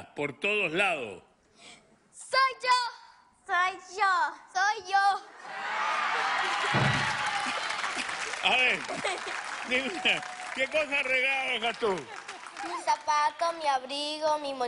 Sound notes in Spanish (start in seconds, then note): 5.6 risas